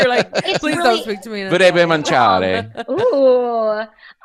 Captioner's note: speaks Italian